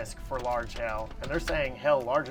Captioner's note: hail taps vehicle